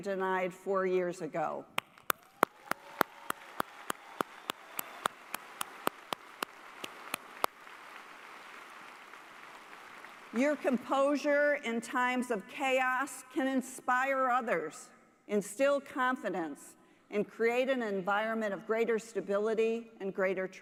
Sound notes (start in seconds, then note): 6.3 applause